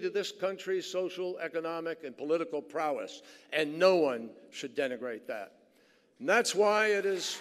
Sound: applause

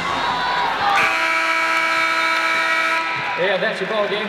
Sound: buzzer

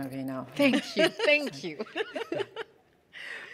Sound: laughing

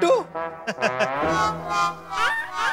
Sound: chuckles

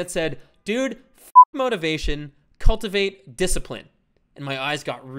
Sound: beep

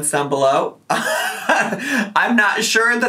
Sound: laughs

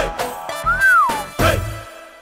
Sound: whistles

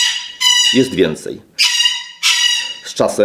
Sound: parrot sounds

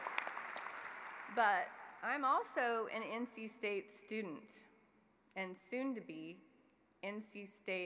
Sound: applause

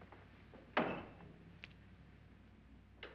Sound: door closes

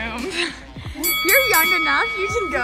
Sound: bell dings

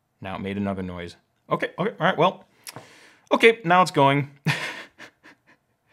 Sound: laughs

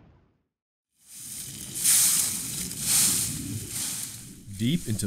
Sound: leaves crunching

